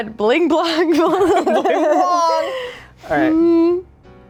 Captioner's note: laughs